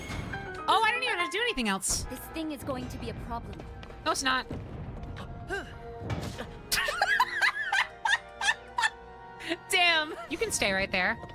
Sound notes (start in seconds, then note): 6.7 laughter